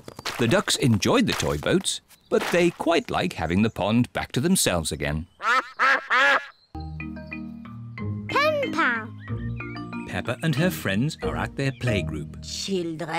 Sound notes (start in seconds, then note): 5.4 duck quacks